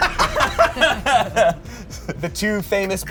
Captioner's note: all laugh